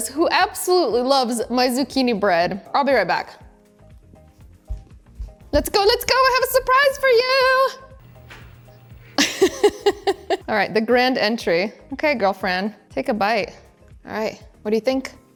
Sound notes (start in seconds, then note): 9.1 presenter laughing